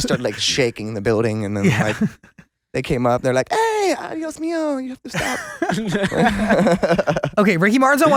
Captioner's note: laughs